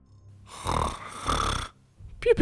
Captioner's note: snoring